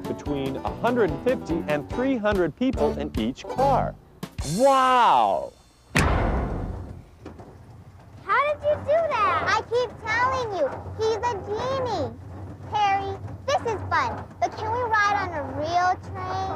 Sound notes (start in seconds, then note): 5.8 loud short bang